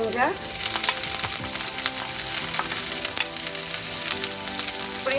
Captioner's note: frying sound